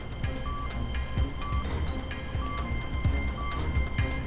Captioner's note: beeping continues